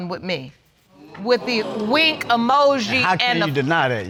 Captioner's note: audience exclaiming